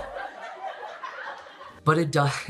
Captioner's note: laughing